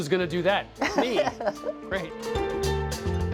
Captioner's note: laughs